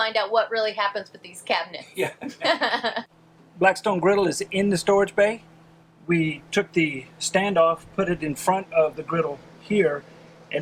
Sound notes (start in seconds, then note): 2.0 both laughing